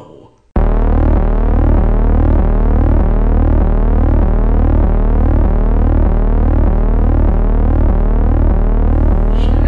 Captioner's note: ゴゴゴゴ